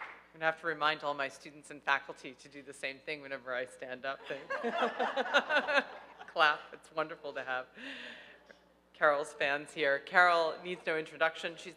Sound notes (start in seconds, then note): 4.5 laughing